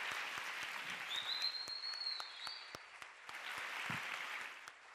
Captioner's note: audience applauds; audience whistles